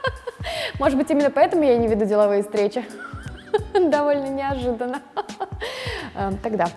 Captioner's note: laughing; laughing